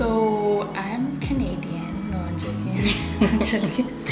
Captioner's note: both giggle